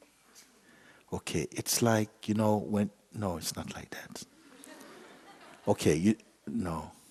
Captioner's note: laughter